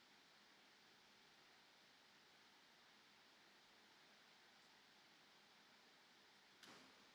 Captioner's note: none